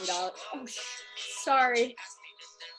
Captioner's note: phone rings